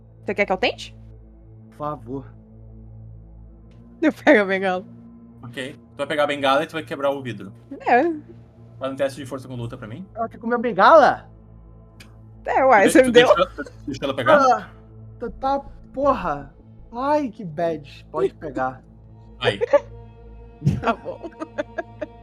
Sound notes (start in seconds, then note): 6.0 laughing; 19.5 laughs